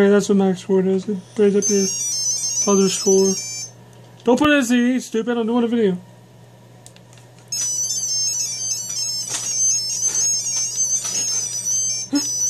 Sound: laughs

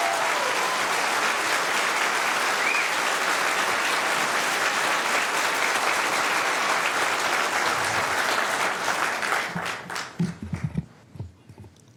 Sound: cheering/Applause

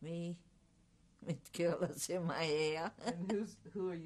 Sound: laughs

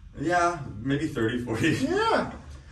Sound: laughs

